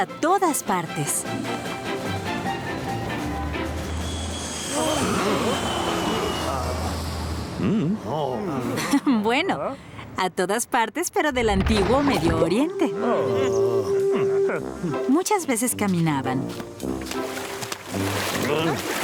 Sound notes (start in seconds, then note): 3.8 whoosh; 4.8 grunting; 5.7 gasps